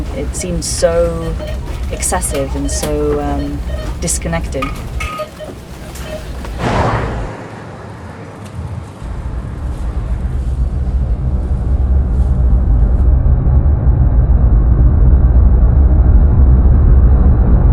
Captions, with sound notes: it seemed so excessive and so disconnected [Car passing] [Low rumble]